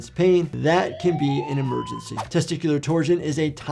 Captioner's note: sirens blaring